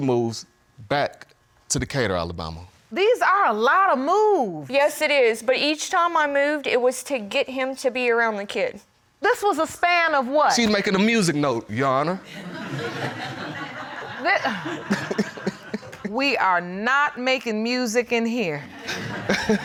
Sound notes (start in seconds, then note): 12.2 audience laughing